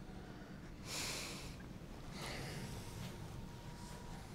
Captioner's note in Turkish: Nefes sesi